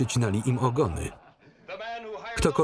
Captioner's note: laughter